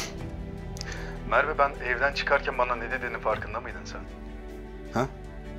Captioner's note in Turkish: Hakan ses